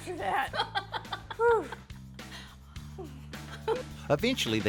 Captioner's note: both laughing; sighs